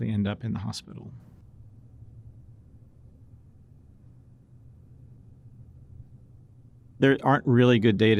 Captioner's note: silence